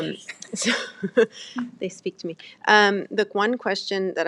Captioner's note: chuckles